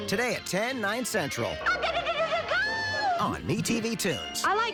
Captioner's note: squeals